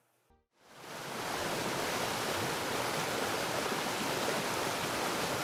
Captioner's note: waterfall flowing